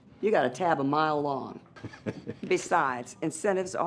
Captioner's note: chuckles